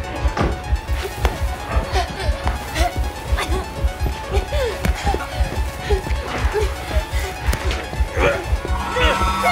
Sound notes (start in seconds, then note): 0.8 Lori breathing heavily